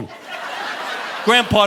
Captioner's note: audience laughing